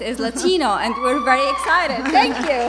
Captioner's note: cheering